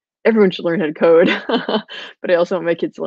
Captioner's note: laughing